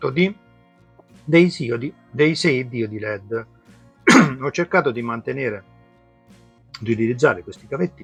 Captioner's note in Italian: tosse